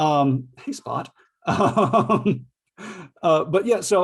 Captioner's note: laughs